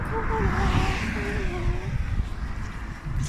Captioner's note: traffic